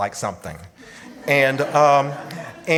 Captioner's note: audience laughs